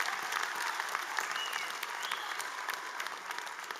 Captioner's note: applause